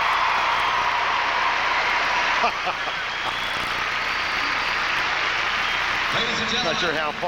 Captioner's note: applause